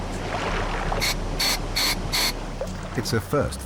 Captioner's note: valve hissing